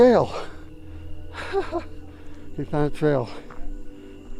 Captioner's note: tender suspenseful music; laughing